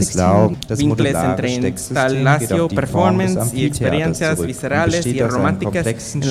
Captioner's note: speaker speaking in a foreign language